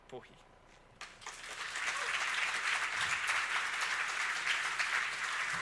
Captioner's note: crowd applauding